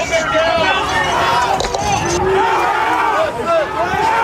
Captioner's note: people shouting